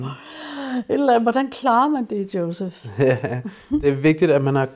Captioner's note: laughs